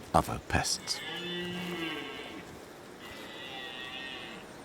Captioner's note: deer bleating